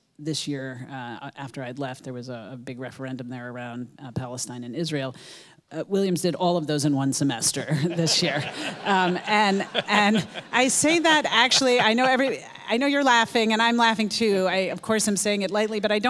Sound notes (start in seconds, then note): 7.7 audience laughing